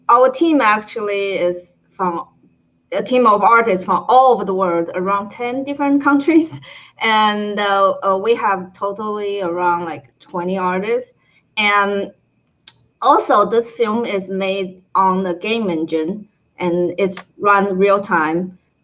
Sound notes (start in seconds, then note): none